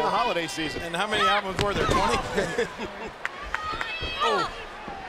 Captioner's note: laughs